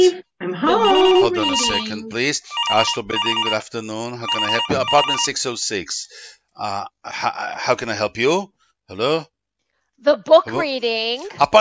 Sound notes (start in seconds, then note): 2.5 phone rings